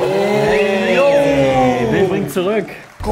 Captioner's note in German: Jubel